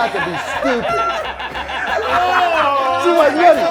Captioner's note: laughing